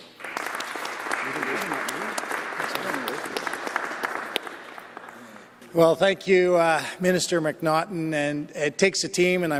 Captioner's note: applause